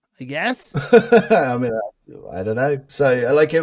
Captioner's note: laughs